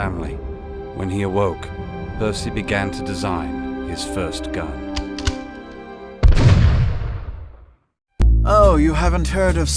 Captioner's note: gunshot